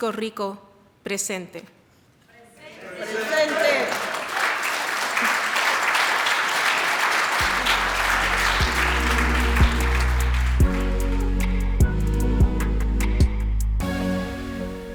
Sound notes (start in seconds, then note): 2.6 crowd responds "presente !"; 9.0 clapping